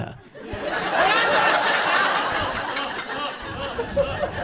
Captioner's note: audience laughs